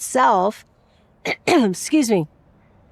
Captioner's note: clears throat